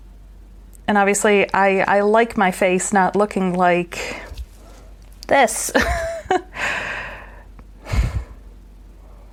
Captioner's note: laughs